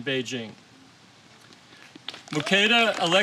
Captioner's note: applause